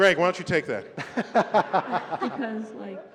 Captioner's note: laughter